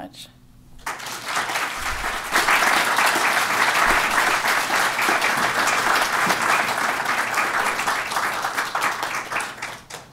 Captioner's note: applause